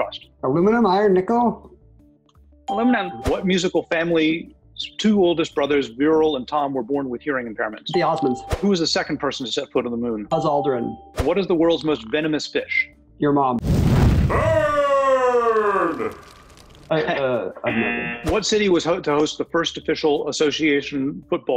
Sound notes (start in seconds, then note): 13.6 flames rage; 14.5 voice-over; 16.9 chuckles